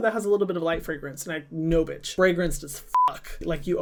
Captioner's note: beep